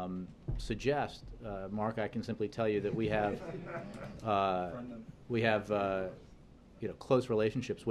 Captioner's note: laughter